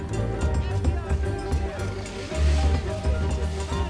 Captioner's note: man shouting